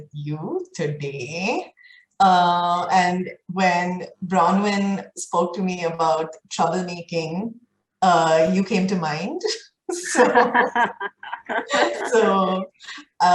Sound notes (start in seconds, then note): 10.0 both laughing